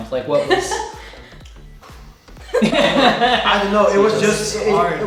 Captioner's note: laughing